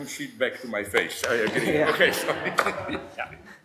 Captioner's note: they laugh